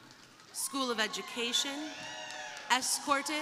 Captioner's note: crowd applauding; crowd cheering